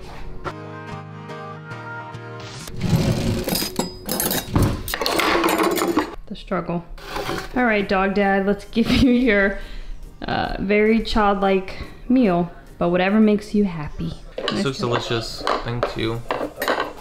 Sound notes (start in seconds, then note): 0.5 upbeat music; 2.9 silverware clanking